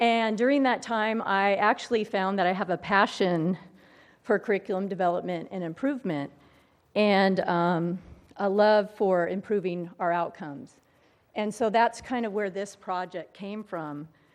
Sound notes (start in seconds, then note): none